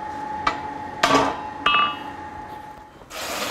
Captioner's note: metal clanging